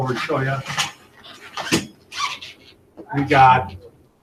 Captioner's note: metal chair scraping on floor